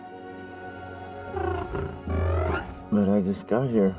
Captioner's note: alien chittering